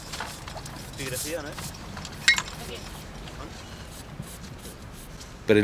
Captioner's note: archeologists chattering; speaking Italian